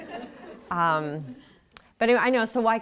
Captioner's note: laughter